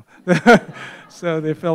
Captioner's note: laughs